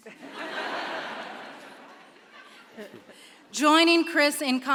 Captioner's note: audience laughs